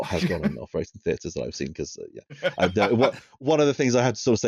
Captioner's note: additional burst of laughter